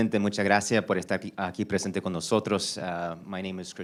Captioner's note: in Spanish